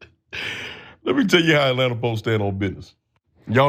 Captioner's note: laugh